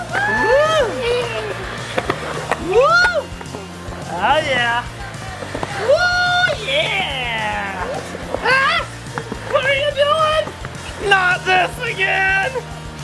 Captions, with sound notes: (whooping) Oh yeah! Whew yeah! What are you doing? Not this again!